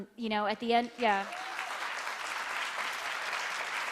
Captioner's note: applauding